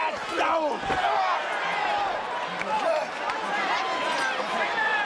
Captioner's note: audience cheers